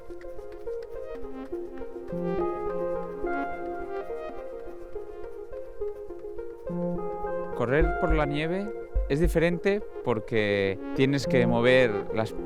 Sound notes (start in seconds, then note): 7.9 speaking in foreign language